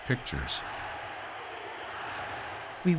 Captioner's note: crowd chanting, "Sieg Heil!"